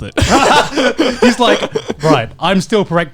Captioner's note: both laughing